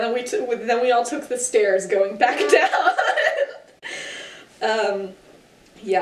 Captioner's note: laughing